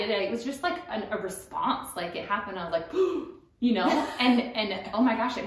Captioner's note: gasp